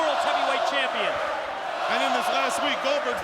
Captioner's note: audience chanting